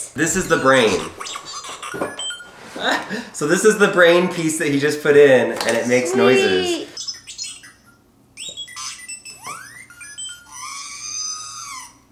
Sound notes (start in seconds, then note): 0.4 droid chirping; 8.4 chirps, beeps, and squeals